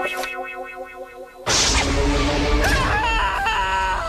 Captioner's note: screaming